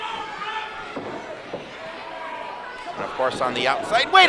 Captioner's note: crowd noise